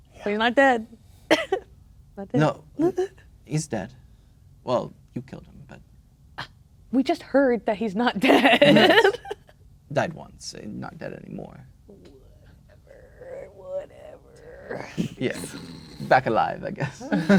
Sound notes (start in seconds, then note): 1.5 laughs; 6.3 scoffs; 8.3 laughing; 16.8 snickering